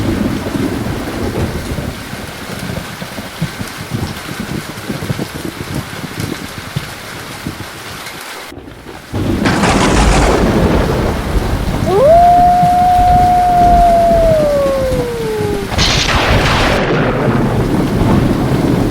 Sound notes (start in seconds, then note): 0.2 thunder cracking; 8.8 thunder cracking; 11.8 wolf howling; 15.9 thunder cracking